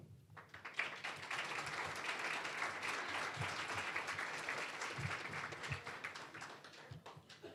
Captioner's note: applause